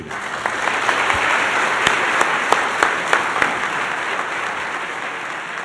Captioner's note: applause